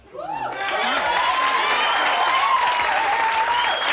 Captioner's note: audience cheers